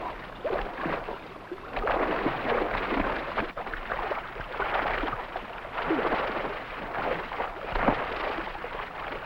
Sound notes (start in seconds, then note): 1.4 water bubbling; 1.7 water sloshing